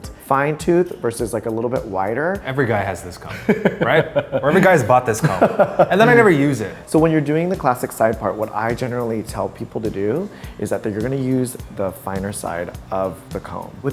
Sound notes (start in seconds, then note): 3.3 laughs